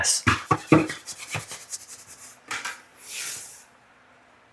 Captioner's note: scrapes aggressively